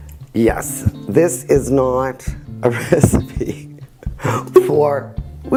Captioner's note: chuckles